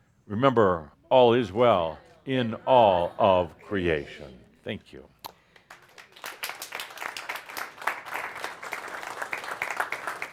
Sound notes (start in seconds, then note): 5.6 audience applause